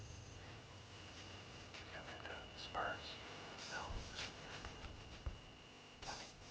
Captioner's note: whispering